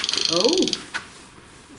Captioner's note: Rem grinds